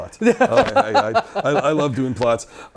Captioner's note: laughs